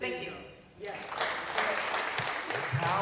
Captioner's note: applause